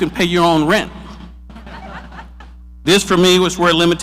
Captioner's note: audience laughs